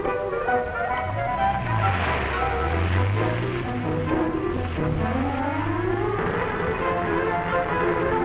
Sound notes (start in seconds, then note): 0.0 car rumbling